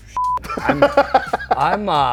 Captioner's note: laughs